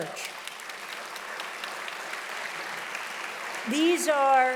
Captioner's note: audience applauding loudly